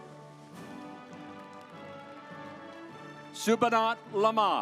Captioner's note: audience applauds